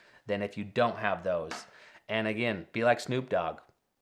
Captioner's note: pencil tapping